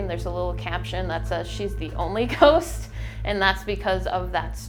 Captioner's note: chuckles